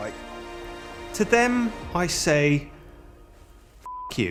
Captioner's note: beep